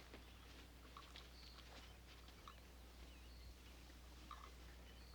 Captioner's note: birdsong